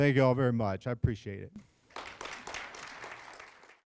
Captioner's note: applause